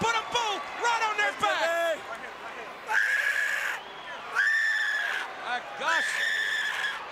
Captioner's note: crowd chatter